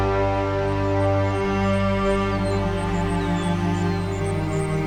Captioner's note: crickets chirping